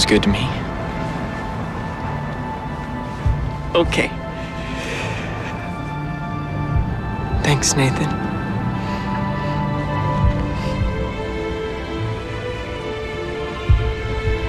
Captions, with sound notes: [sighs] It sounds good to me. Okay. Thanks, Nathan.